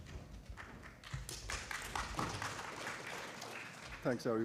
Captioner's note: applause